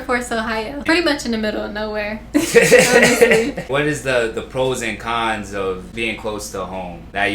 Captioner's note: laughter